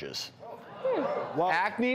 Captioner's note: audience groans in surprise